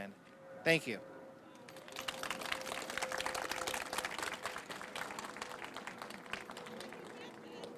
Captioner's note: applause